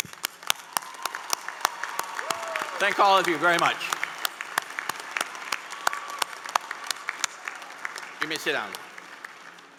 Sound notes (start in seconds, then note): 3.0 applause